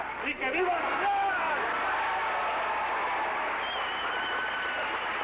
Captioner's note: cheering and whistling